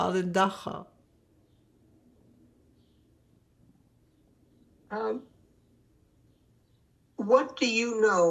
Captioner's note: pauses 6 seconds